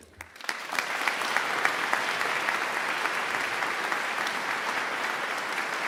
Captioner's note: audience claps